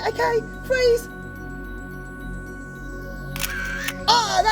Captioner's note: camera clicking noise can be heard